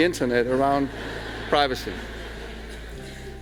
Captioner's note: audience laughs